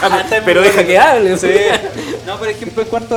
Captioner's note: laughs